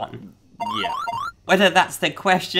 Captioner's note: gaming sounds